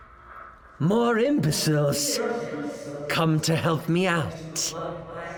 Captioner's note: echoing